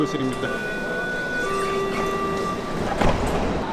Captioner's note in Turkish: metro siren sesi